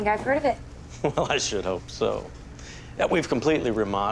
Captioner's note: chuckles